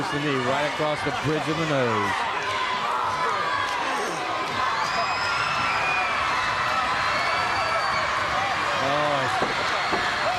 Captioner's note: crowd chatter